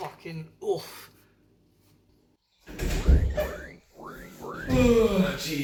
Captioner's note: ring ring, ring ring